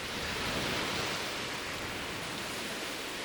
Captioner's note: wave crashes